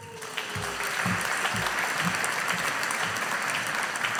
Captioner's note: audience applauding